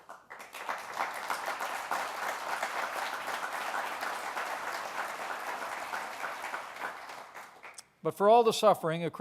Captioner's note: applause